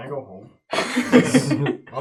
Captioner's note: all laugh